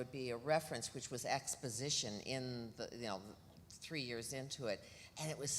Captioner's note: none